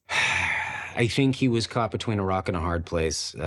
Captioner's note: sighs